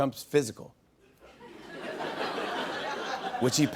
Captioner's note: laughter